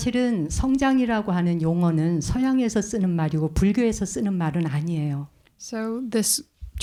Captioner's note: speaking in Korean